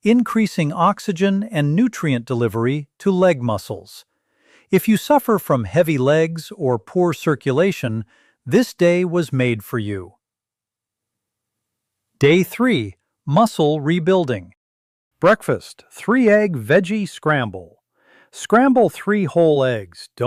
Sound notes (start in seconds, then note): 10.3 pause